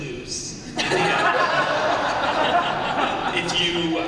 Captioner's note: laughter